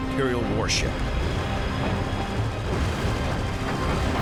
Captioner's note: explosions